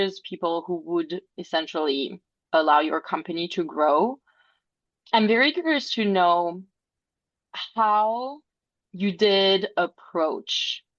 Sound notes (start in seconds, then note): none